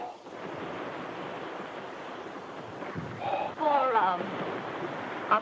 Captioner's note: waves crash; exhales